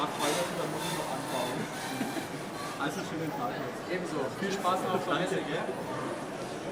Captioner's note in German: Gespräch im Hintergrund